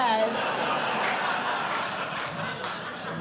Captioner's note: audience Laughing